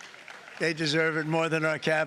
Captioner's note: cheering